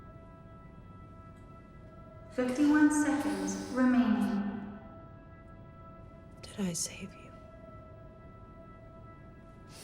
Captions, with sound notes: [synthetic voice over PA] 51 seconds remaining. Did I save you?